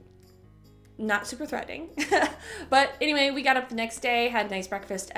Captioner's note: chuckle